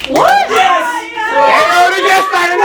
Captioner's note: red starts cheering